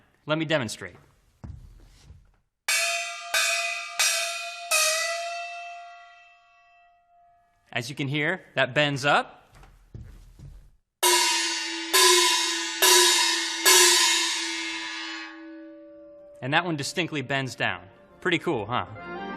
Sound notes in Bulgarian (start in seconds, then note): 2.7 удар на гонг; 11.0 удар на гонг